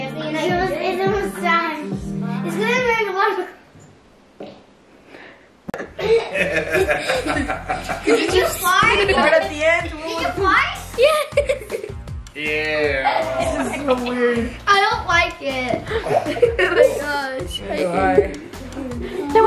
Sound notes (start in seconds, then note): 4.5 flatulence; 6.0 laughter